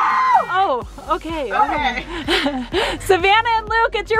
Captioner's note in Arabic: الجميع يصرخون; يضحك